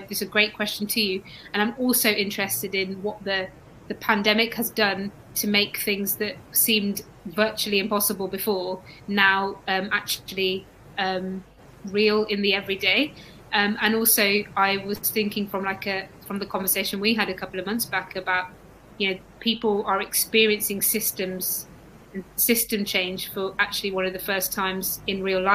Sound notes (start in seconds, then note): 11.6 erm